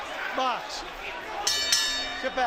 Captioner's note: bell dinging